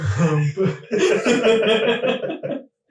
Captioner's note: all laughing